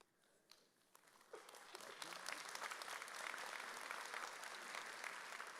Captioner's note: audience applauds